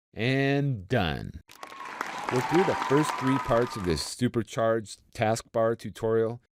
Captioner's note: cheering and clapping